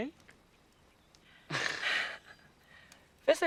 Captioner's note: rires